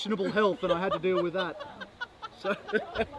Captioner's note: woman laughing